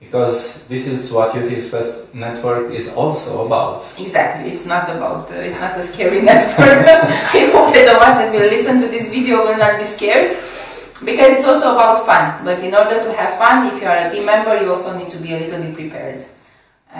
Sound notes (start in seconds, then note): 5.3 laughs